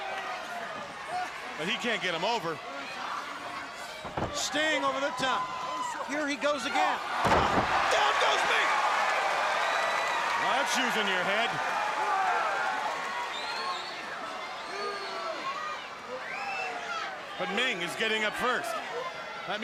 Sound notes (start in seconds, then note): 8.8 crowd cheering